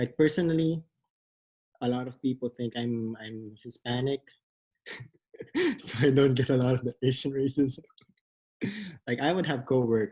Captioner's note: laughs